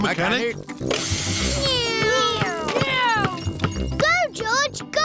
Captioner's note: whirring